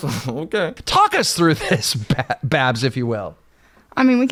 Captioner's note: chuckles